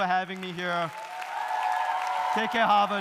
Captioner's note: audience applauding; audience cheering